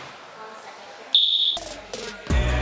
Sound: whistle

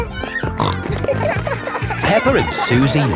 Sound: snorting

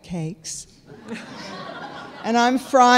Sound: audience laughing

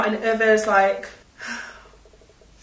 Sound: sighs

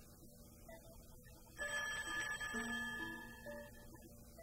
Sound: phone rings

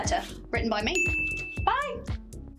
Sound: bell dings

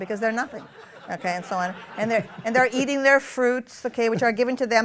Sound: laughter

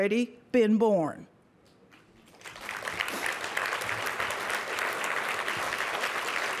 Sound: applause

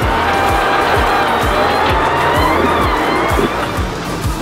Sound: car engine revving

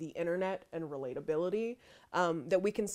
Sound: none

